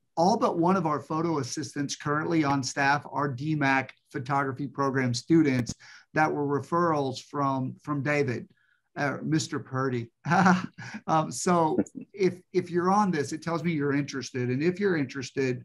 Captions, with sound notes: all but one of our photo assistants currently on staff are DMACC photography program students that were referrals from David, Mr. Purdy. [laughs] So if you're on this, it tells me you're interested. And if you're interested,